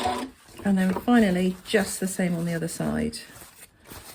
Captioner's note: sewing machine noise